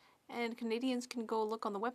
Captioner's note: speaking French